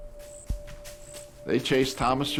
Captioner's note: bushes rustling